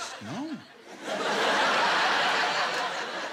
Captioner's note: laughter